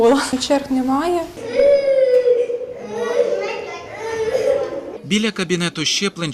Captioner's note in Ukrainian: Дитина плаче під кабінетом щеплень